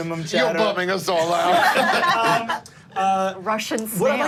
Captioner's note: group laughing